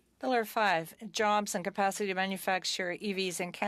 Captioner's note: speaking French